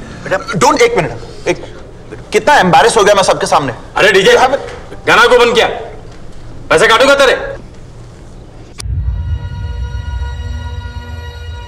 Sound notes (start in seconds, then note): none